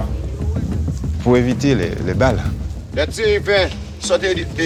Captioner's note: French spoken audio